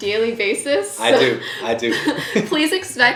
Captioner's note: both laughing